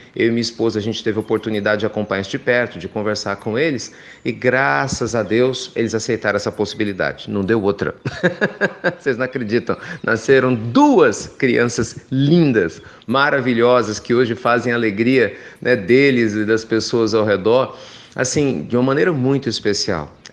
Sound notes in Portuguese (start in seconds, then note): 8.0 risos